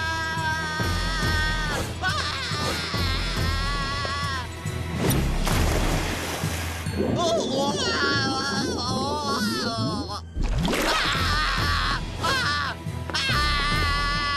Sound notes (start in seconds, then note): 6.9 gurgling; 10.8 screaming